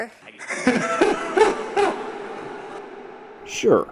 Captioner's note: kavanaugh laughs